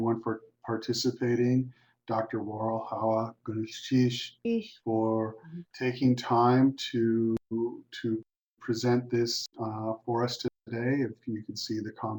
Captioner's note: non-English language spoken